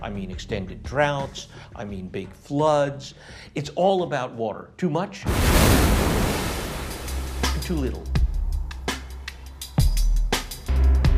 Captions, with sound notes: I mean extended droughts. I mean big floods. It's all about water. Too much, (wave crashing) and too little. (downbeat music)